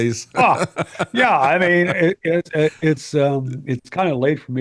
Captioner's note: laughing